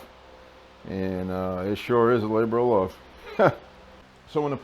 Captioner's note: laughing